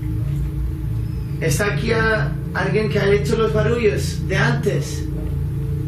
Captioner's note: speaking in foreign language